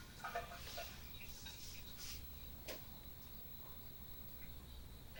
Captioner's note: insects chirping